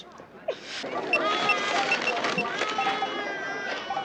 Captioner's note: baby crying; scanners beeping